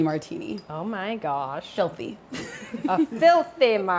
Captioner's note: laughs